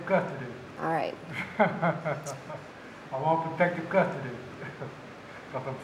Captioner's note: laughs